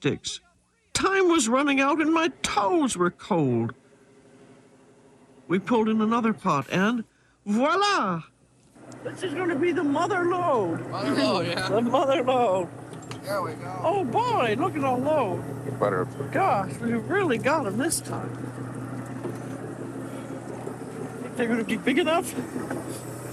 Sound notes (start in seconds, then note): 11.2 laughs